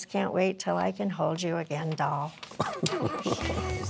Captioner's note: laughing